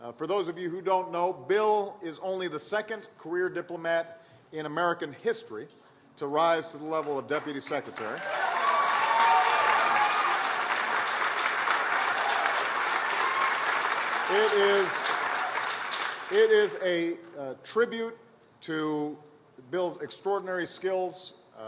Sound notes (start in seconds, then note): 10.6 applause